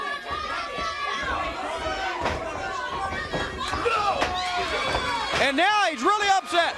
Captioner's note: crowd cheering